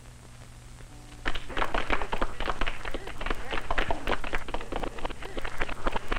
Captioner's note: clapping, disjointed then reversed